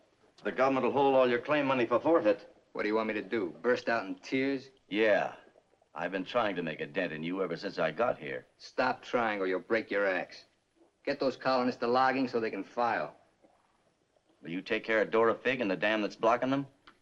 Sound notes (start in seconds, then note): none